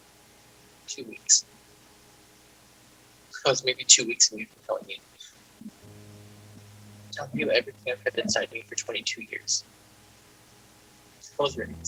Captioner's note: sarcastically